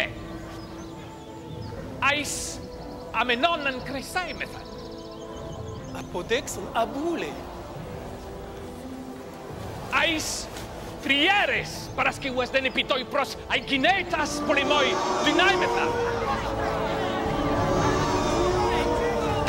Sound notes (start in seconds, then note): 6.1 audience member speaking in foreign language; 10.0 Themistocles speaking in foreign language; 14.0 audience jeering and murmuring